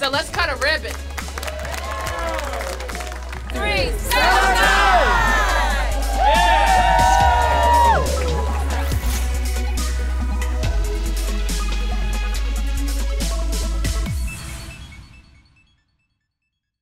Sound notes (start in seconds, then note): 3.2 applause; 6.7 applause